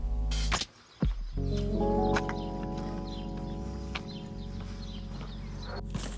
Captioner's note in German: Vögel zwitschern